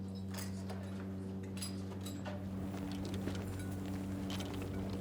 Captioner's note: footsteps crunching